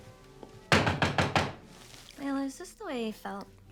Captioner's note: Mammy knocks